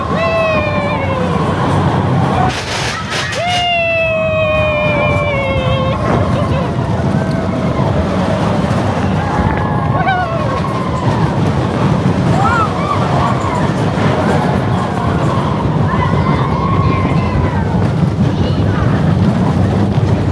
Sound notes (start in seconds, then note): 2.9 laughs; 13.4 coaster rumbling; 13.4 guests whooping